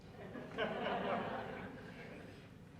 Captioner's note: laughter